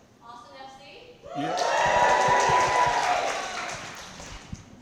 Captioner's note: speaking softly; crowd cheering